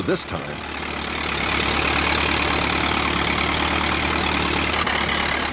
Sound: plane engine running

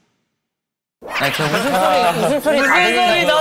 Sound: the sound of laughter outside the prison

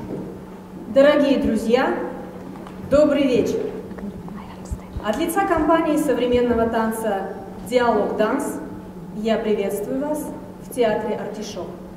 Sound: speaking in Russian

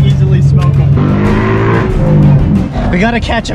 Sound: car engine revving

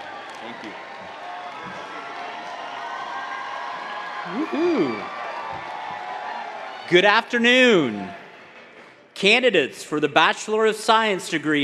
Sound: applause

